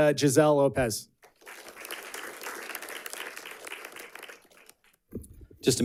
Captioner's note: audience clapping